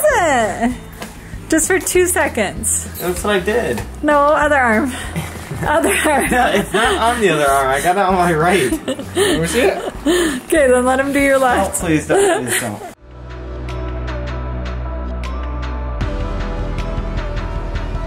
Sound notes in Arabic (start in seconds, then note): 5.4 ضحكات خافتة; 7.1 يضحك; 8.5 ضحكات خافتة من الكريستال